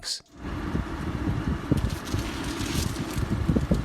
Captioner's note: wind blowing